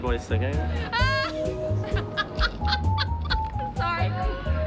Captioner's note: laughs